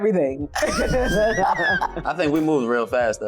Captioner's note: laughing